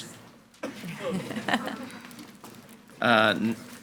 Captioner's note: people laughing